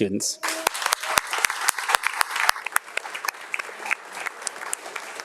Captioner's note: attendees clapping